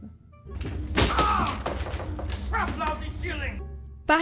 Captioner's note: cry of pain